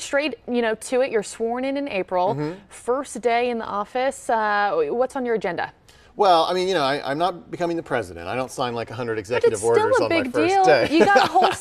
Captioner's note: laughter